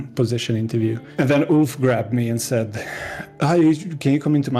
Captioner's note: deep breath